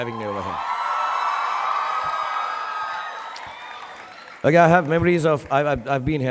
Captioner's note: audience cheering and applauding